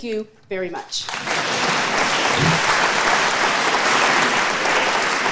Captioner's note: audience applauding